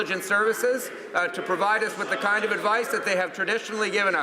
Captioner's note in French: voix de l'interprte